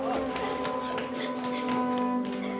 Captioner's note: crying